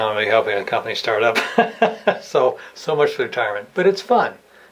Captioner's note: laughs